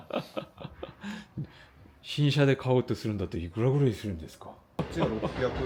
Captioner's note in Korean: 웃음